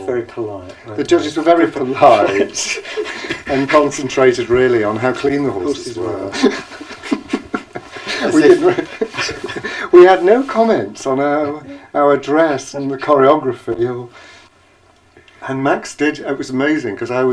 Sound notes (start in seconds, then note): 6.2 laughter